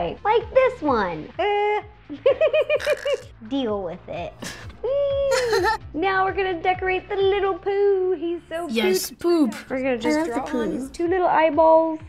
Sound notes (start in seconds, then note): 2.8 harsh gurgle; 5.2 giggling